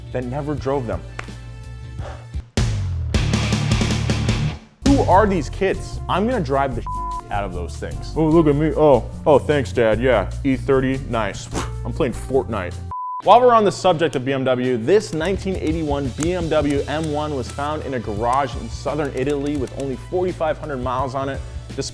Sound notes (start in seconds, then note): 2.0 sighs heavily; 2.6 hardcore rock music; 6.9 beep